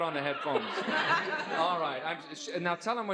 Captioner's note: laughs